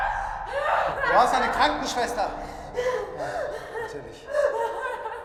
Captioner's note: screaming; speaking German